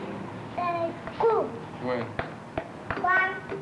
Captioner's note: Spanish speaking